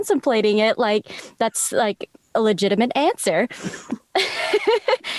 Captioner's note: laughs